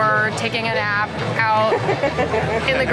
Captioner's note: laughter